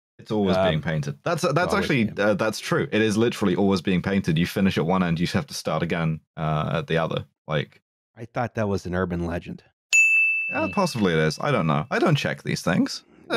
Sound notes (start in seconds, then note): 9.9 ding!